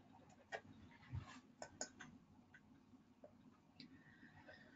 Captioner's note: mouse clicking